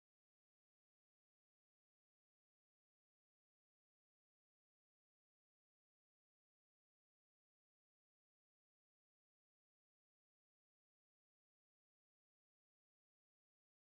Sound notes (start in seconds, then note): none